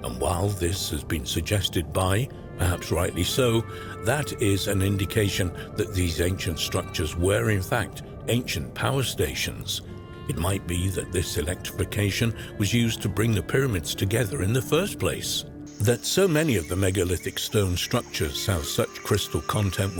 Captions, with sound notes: and while this has been suggested by, perhaps rightly so, that is an indication that these ancient structures were in fact ancient power stations. It might be that this electrification was used to bring the pyramids together in the first place. [crickets chirping] That so many of the megalithic stone structures have such crystal content